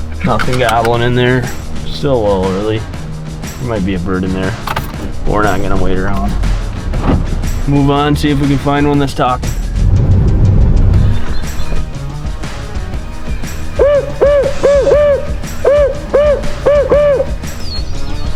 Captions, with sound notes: Nothing I want in there, still a little early. Might be a bird in there. We're not gonna wait around. Move on, see if we can find one that's stocked. (loud turkey call)